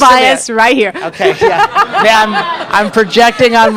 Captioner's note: laughs